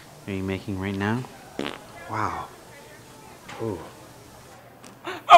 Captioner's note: farts